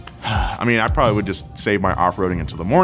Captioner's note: sighs